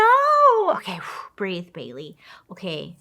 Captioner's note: sighs